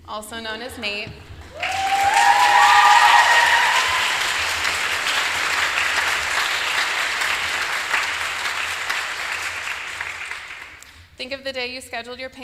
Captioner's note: applause